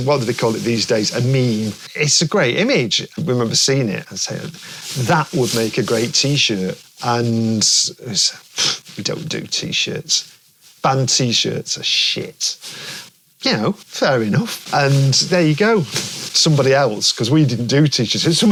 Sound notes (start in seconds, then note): 8.1 scoffs